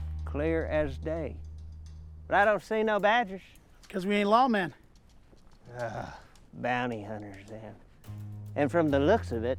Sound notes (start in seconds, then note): 5.8 Waco groans